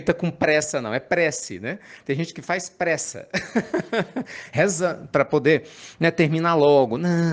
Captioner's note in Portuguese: risadas